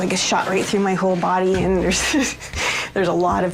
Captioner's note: laughs